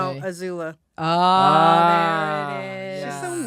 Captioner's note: groaning